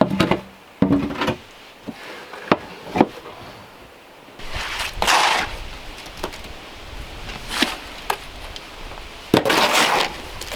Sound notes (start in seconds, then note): 4.4 scraping